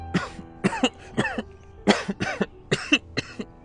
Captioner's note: coughing